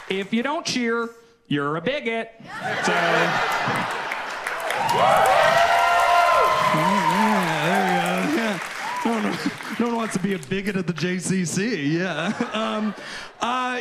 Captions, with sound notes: If you don't cheer, you're a bigot. So. (audience cheers and applauds) Mm hmm. Yeah, there you go. Yeah. No one wants to be a bigot of the JCC. Yeah. Um.